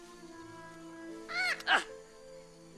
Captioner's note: squawks